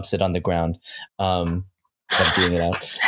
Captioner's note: laughter